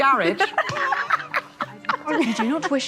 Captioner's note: both laughing